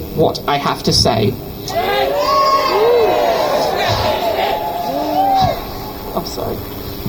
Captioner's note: crowd chants "Shame"